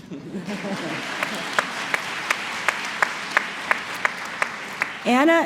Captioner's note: applause